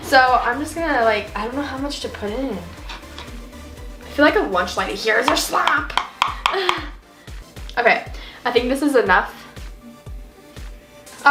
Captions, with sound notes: So I'm just gonna, I don't know how much to put in it. I feel like a lunch lady, here's your slop. (chuckles) Okay, I think this is enough.